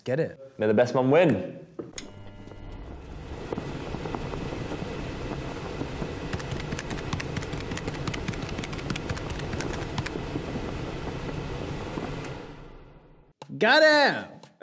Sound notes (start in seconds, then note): 1.7 wind blowing; 6.3 typing